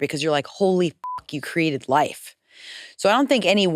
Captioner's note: beep